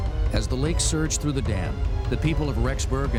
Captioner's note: voiceover